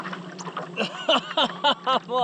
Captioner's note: laughing